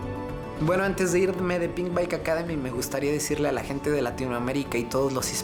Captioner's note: speaks Spanish